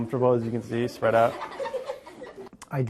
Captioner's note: children laughing